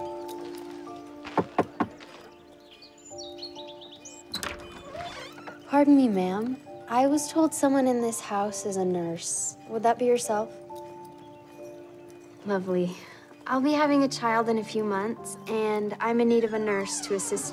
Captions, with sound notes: [knocking on door] Pardon me, ma'am. I was told someone in this house is a nurse. Would that be yourself? Lovely. I will be having a child in a few months and I'm in need of a nurse to assist me...